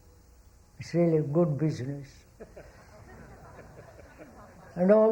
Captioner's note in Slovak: smiech